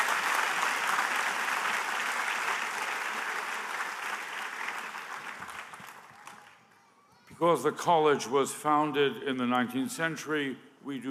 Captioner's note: applause